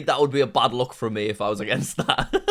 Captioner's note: laughs